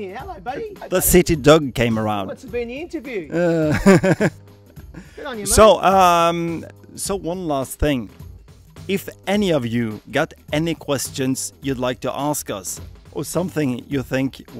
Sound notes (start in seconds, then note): 3.4 laughs